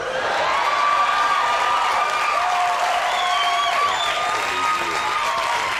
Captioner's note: audience whistles and claps